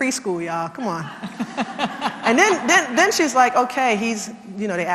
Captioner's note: laugh